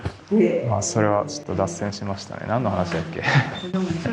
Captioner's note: laughs